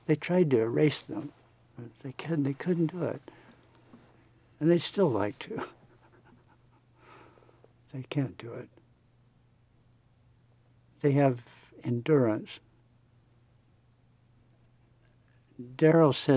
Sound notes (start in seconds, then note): 5.5 laughs